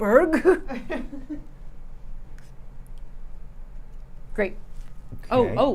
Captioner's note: laughing